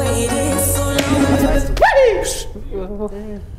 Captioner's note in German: Schrei